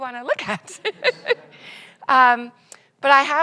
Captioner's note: audience laughs